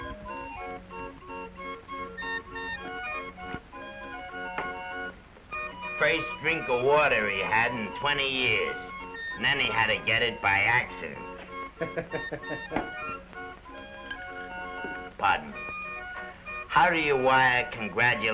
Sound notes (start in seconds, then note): 0.0 carnival music plays; 11.7 bartender laughs; 12.6 carnival music plays